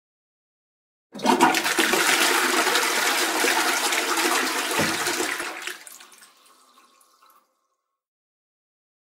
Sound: sound of toilet flush

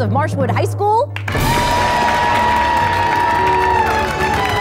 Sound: applause

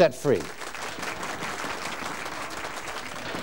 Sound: clapping

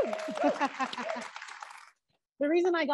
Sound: audience cheering

